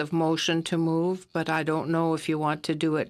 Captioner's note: speaking FRENCH